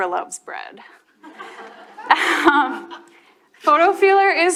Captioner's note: audience and chuckle